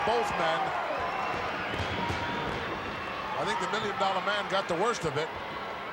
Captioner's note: applause